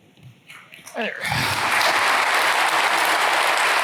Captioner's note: applause